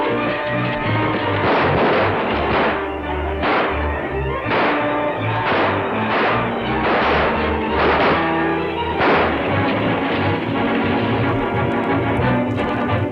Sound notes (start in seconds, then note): 1.7 frenzied music; 1.7 guns fire repeatedly